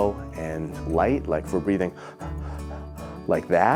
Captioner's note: breathes quickly